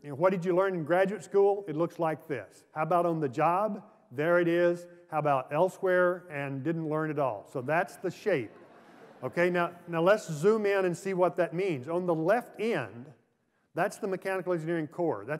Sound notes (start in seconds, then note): 8.3 laughter